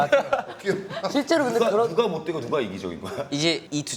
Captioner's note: haha